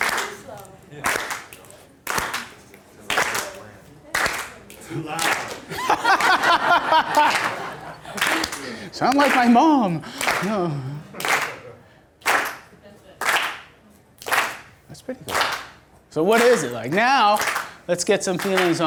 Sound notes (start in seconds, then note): 0.1 voiceover; 2.0 clapping; 4.8 laughing; 5.1 voiceover